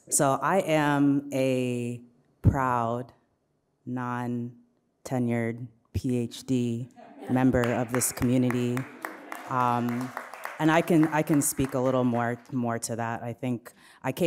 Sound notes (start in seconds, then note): 9.3 audience applauds